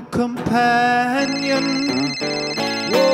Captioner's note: phone signal